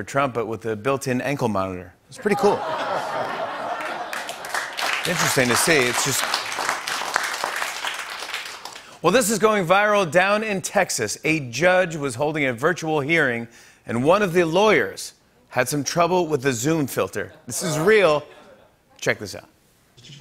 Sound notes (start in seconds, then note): 3.0 audience groans; 6.6 applause